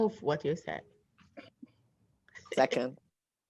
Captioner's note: laughter